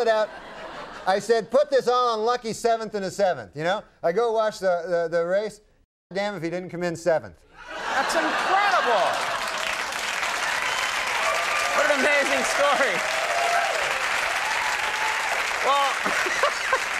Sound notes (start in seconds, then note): 9.6 audience applauds and cheers